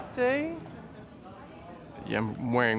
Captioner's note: crowd chatter